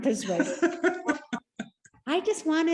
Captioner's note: laughing